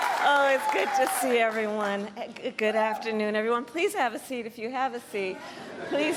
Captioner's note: cheers and applause